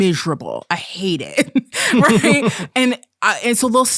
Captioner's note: both laughing